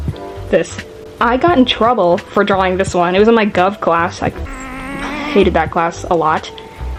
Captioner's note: angry noises